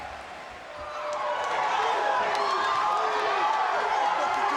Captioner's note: crowd clamoring